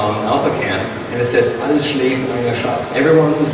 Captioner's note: speaking foreign language